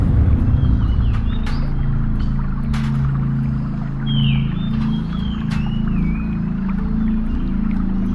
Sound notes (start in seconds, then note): 0.0 stove rattling